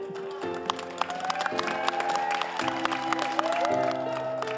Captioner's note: all applauding